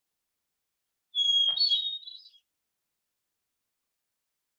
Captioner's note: bird tweeting